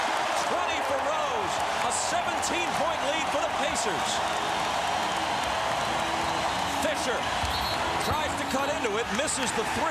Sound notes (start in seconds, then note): 7.2 whistle blows